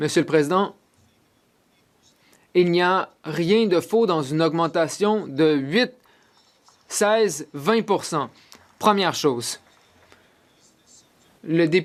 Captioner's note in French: voix de l'interprète